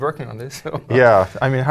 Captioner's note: laugh